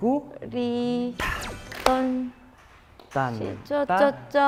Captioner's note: one refreshing clap